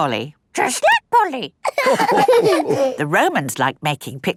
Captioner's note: all laughing